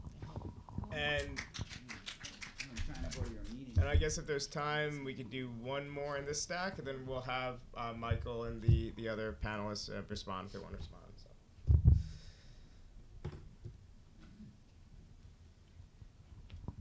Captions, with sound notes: (applauding) - And I guess if there's time, we can do one more of this stack, and then we'll have Michael and the other panelists respond.